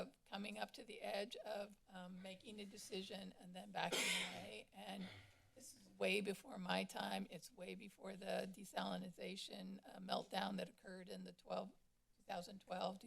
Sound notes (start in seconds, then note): 3.9 coughs